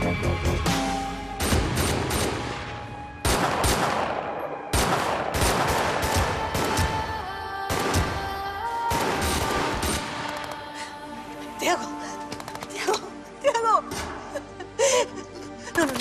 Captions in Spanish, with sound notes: [Disparos] - THIAGO. ¡THIAGO, THIAGO!